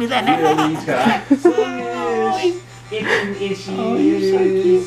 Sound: baby laughing

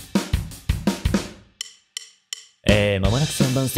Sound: deep voice

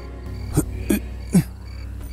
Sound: grunts

